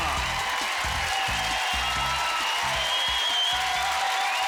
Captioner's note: cheering